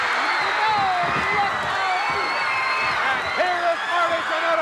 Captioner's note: audience cheering